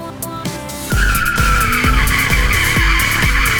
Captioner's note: tire screeching